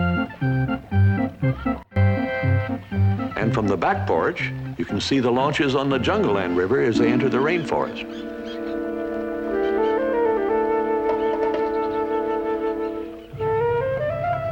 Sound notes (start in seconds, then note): 8.4 jungle birds calling